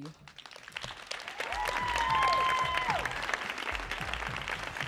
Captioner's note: audience applauding